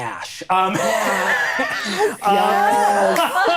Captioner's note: laughing